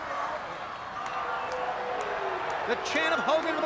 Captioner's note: crowd roaring